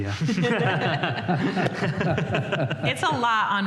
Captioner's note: laughter